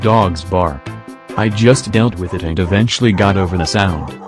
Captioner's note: dogs barking